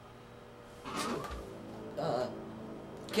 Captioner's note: creak